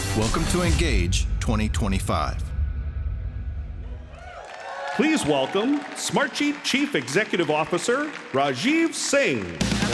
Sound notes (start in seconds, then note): 3.8 audience cheering